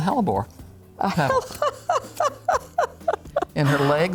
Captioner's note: laughs